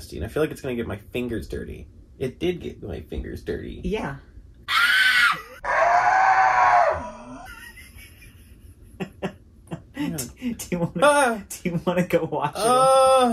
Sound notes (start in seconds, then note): 4.6 screams; 12.5 upset moaning